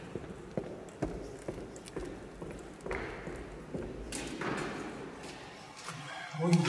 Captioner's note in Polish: odgłos kroków